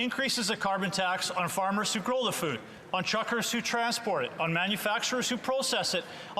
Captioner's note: speaking French